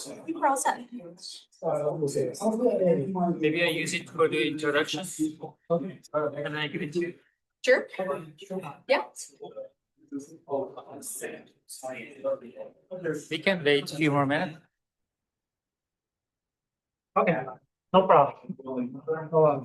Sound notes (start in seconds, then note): 1.6 background conversation; 17.9 background conversation